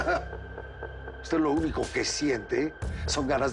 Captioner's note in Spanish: Jaime ríe